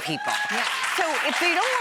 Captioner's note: audience cheers